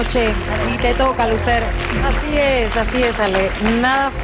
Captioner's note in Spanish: aplausos